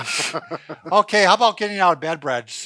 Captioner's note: laughing